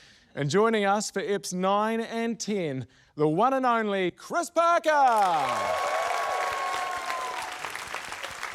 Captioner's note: cheering, applause